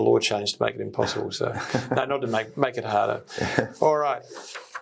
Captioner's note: laughing